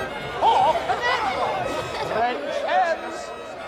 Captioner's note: laughter, indistinct chatter